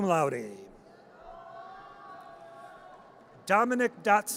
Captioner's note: audience cheers